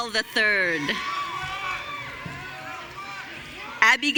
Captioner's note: audience cheering